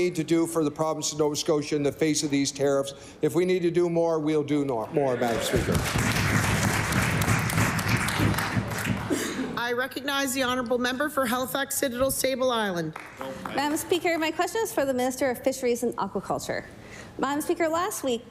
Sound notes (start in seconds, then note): 12.9 applause